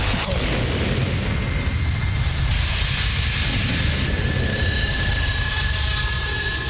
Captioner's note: explosion rumbling; dramatic music